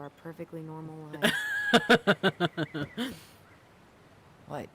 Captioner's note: laughs